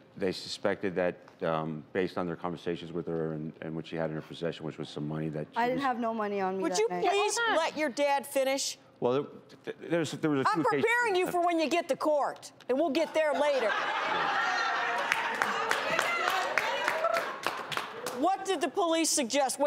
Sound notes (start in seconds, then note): 13.1 audience laughs